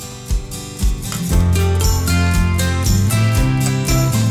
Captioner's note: cup clinking